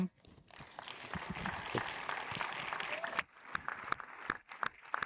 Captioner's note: audience applauds